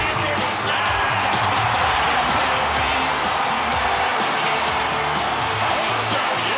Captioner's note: Vince chattering